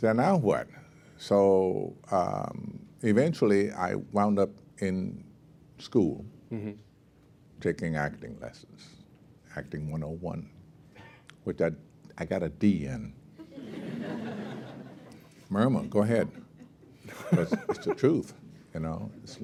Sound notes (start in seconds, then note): 13.4 laughter